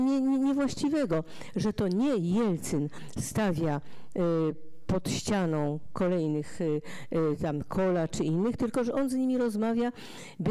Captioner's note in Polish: fraza po rosyjsku